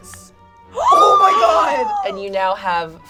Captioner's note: gasps